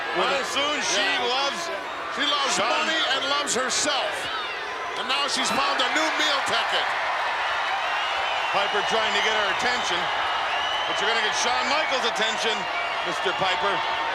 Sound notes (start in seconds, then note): 7.3 crowd cheering